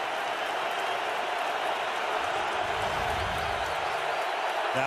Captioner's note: cheering